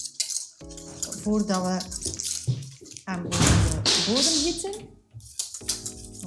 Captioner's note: loud noises in the pantry